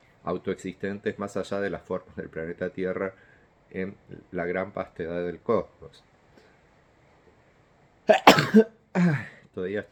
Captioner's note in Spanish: estornudo